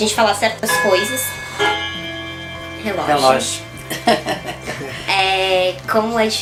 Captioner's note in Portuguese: Relógio tocando no meio da gravação